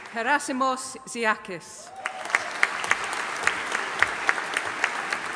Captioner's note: audience applauding